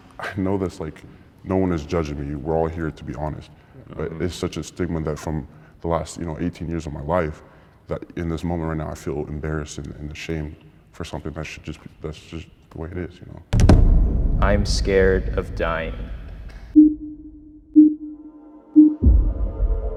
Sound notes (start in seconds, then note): 13.5 intense boom; 16.7 countdown beeping